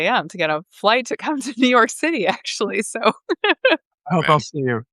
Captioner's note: laughing